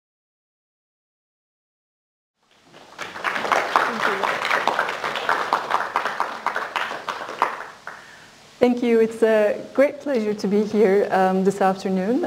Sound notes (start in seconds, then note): 0.5 applause